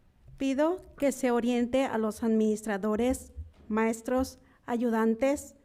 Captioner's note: speaking in foreign language